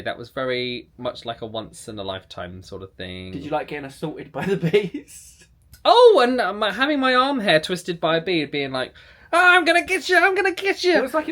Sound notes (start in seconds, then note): 4.4 laughs